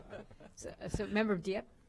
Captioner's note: laughter